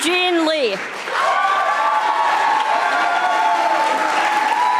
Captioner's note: audience applauding